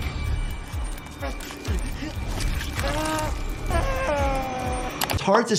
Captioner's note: character moaning and panting